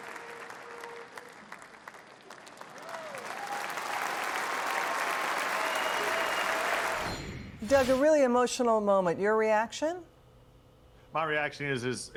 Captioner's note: applause